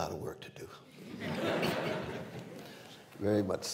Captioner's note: laughter